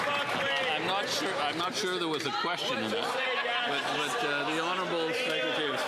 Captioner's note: some Applause